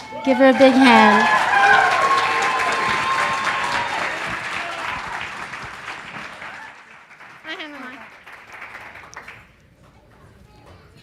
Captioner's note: big applause